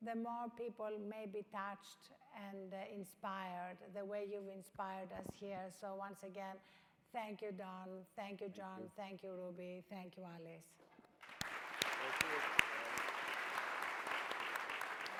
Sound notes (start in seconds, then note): 11.2 clapping